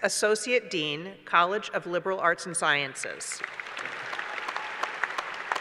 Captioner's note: applause